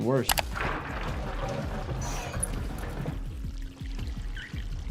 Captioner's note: water sloshes